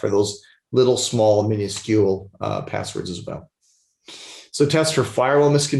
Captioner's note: sniffles